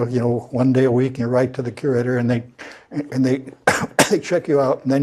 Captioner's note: cough